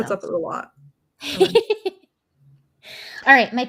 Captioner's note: laughs